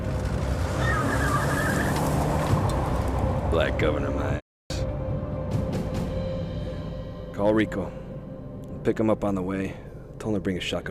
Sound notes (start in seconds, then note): 0.0 tires squealing